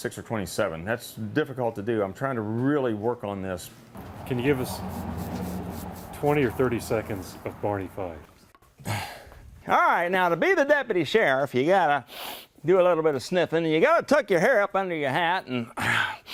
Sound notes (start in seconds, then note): 12.1 sniff; 14.3 sniff; 15.8 clears throat